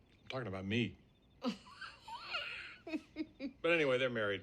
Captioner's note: chuckles lightly